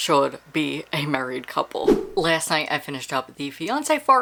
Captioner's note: whoosh